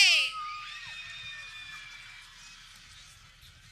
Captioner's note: people cheering